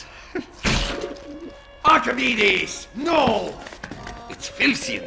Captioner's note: The Heavy chuckles as his loud footsteps are heard gathering speed